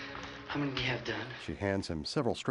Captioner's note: none